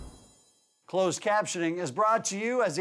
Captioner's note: voiceover